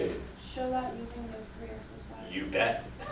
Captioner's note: voiceover